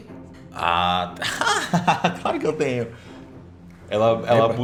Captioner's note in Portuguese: risada